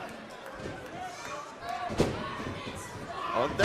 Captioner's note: crowd cheering